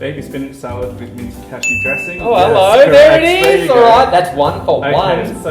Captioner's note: ding!